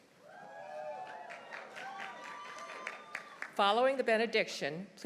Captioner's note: audience cheering; audience applauding